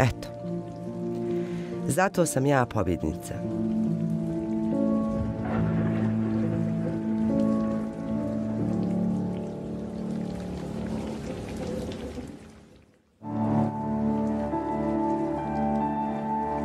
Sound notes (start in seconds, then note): 4.3 thunder rumbling; 5.4 rain pattering; 13.2 gentle brooding music